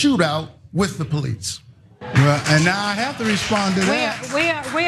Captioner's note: applause